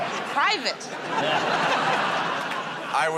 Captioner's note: laughter